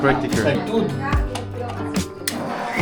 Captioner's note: plugging in